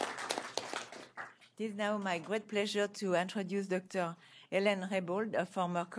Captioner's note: applause